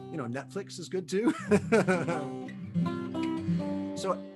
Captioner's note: laughs